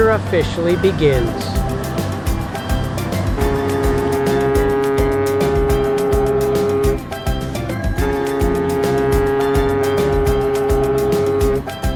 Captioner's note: ship Horn